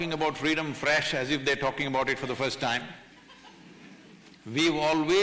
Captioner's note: few laugh